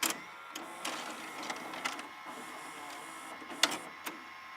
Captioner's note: film projector whirring